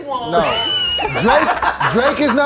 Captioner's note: laughing